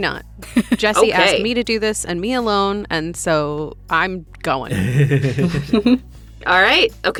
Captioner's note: chuckle